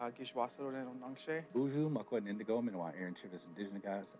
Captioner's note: speaking Native language